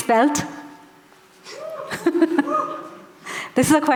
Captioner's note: laughing